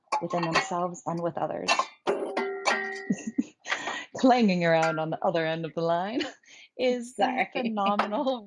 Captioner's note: laughter